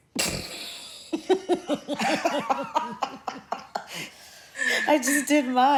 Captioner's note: laughing